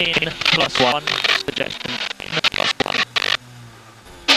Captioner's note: feedback